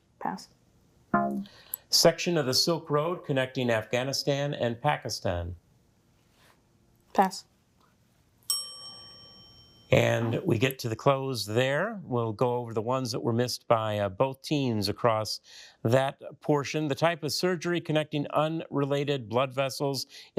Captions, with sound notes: - Pass. - Section of the Silk Road connecting Afghanistan and Pakistan. - Pass. (bell dings) - And we get to the close there. We'll go over the ones that were missed by both teams across that portion. The type of surgery connecting unrelated blood vessels